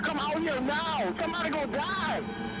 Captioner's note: none